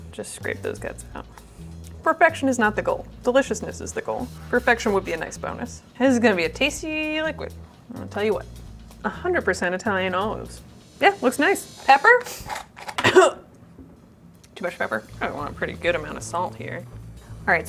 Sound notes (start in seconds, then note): 13.0 chokes